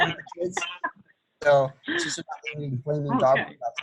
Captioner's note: laughs